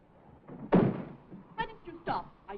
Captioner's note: door slams